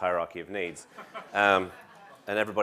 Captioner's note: laugh